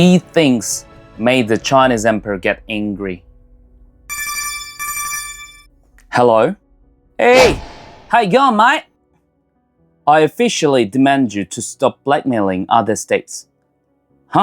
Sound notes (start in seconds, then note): 4.1 phone Call